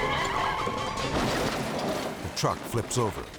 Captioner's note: tires screeching; truck crunching